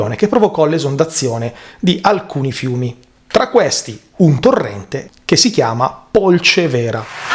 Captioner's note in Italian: Applauso